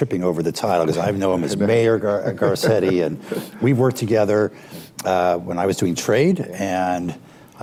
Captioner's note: laughter